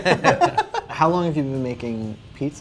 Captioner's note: men laugh